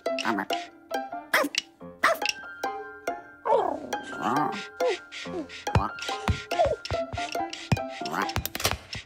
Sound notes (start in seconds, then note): 2.0 barking; 4.9 curious music